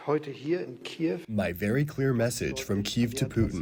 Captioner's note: through translator